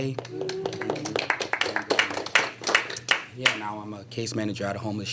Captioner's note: applause